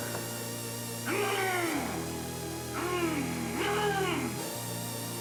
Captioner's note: monster yells